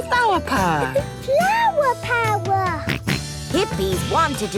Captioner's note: George snorts